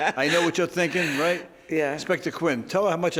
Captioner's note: laughing